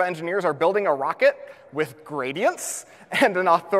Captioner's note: laughs